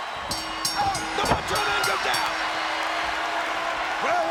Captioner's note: bell ringing; audience cheering